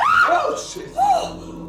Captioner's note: Laura screaming